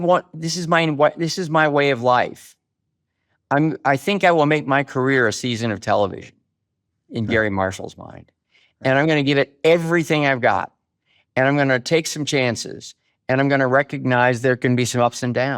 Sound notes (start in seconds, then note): none